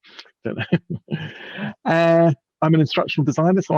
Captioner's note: laughing